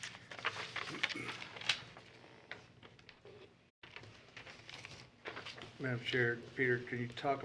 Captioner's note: papers shuffling